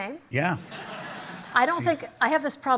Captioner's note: laughter